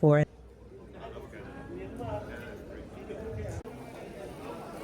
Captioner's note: people chattering